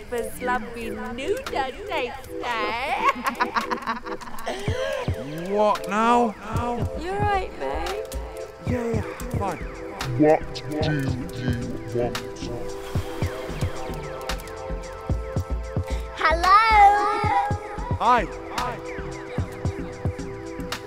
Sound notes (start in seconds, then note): 2.4 laughs